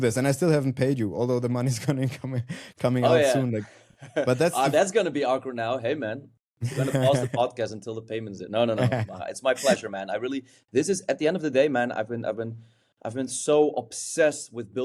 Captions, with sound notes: this, and I still haven't paid you, although the money's coming, [chuckles] -coming, coming out soon. -Oh, yeah. -Like, but that's- -Oh, that's gonna be awkward now. Hey, man- [chuckles] ... we're gonna pause the podcast until the payment's in. No, no, no. -[chuckles] -It's my pleasure, man. I really... This is, at the end of the day, man, I've been, I've been, I've been so obsessed with